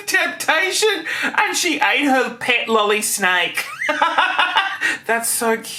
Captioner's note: laughing